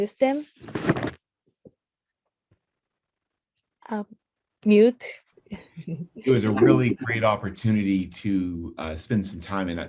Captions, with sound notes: Mute.(laughs) It was a really great opportunity to spend some time